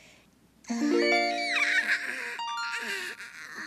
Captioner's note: yawning